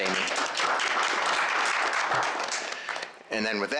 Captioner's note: applause